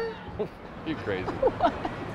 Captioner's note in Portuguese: risos